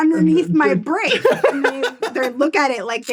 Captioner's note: laughs